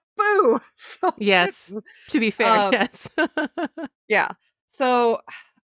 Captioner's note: giggles